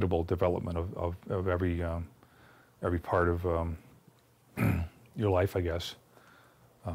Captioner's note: clears throat